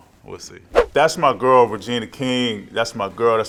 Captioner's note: air whooshing